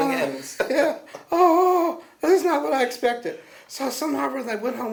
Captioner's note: laughter